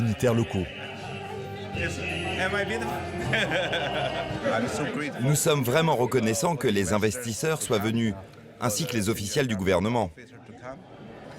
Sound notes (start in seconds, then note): 2.9 laughing